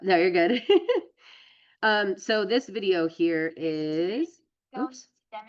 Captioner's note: laughs